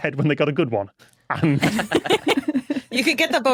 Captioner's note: group laughing